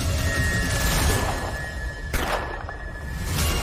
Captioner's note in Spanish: Disparos